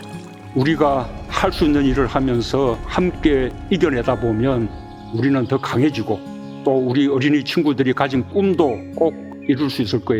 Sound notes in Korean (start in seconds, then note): 0.7 해태 카트 도착하는 소리; 4.9 새 지저귀는 소리